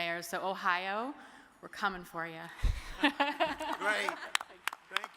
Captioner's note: laughs